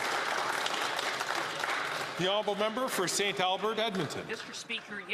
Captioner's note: some Applause